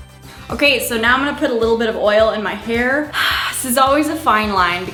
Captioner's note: sighs